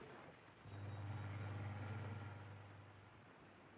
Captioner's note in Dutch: motor zoemt